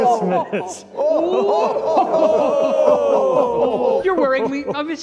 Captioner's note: continue laughing